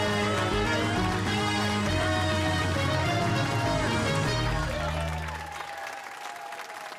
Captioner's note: cheers and applause